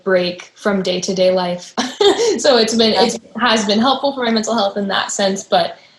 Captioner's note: chuckles